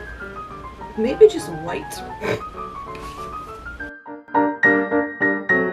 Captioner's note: snorts; music continues at original volume